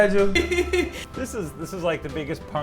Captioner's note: laughs